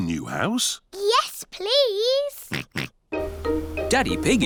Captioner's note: oinks